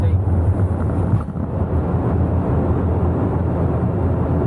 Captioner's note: air whooshing